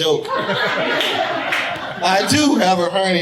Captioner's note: audience laughing